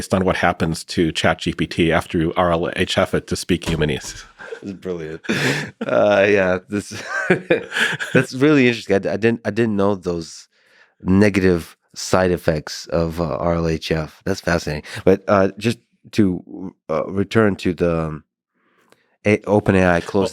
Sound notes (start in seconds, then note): 4.1 both chuckling